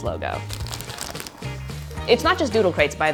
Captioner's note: paper unwrapping